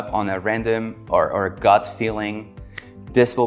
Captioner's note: hand clapping